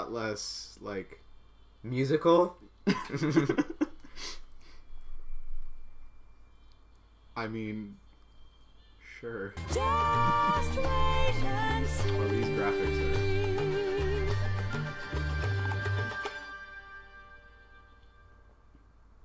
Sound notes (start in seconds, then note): 2.8 chuckles